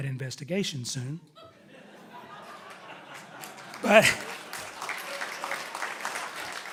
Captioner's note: audience laughing and applauding loudly